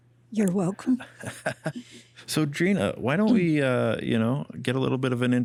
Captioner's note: laughs